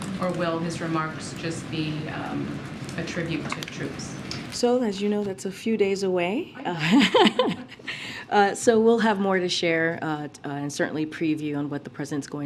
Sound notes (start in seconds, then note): 6.8 laughs